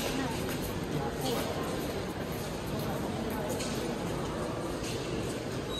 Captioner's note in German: Bauarbeiten im Gange